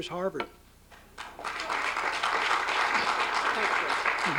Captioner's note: applause